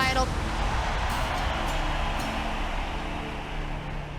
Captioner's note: crowd cheering